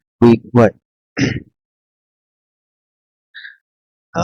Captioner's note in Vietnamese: hắng giọng